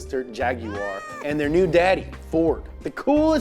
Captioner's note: cat meows